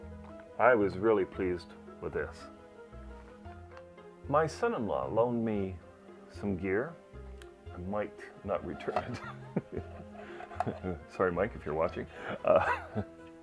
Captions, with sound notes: so I was really pleased with this My son-in-law loaned me, some gear I might not return it (laughs) Sorry Mike if you're watching